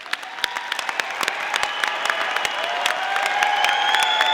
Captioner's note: audience applauding